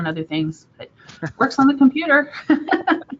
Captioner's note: both laughing; laughing